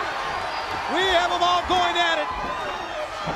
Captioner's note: crowd chatter